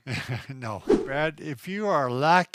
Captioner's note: laughing; air whooshes